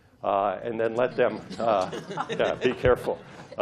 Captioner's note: laughter